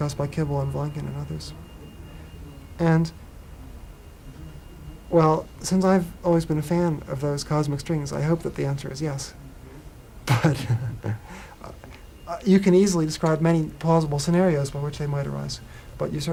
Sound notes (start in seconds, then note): 10.3 laughs